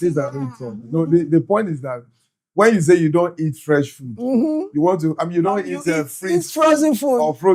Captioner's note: speaking In Foreign Language